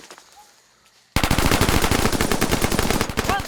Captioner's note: gunfire